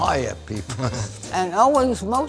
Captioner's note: chuckles